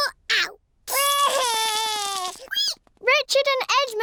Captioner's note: cries